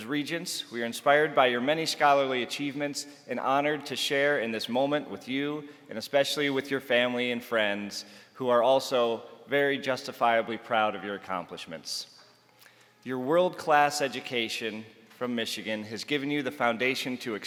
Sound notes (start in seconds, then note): none